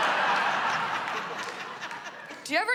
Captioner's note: laughter